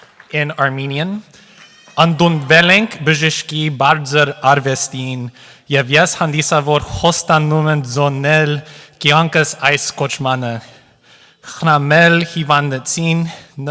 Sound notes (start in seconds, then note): 0.0 applause; 1.9 speaking armenian